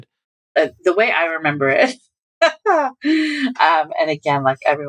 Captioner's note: laughter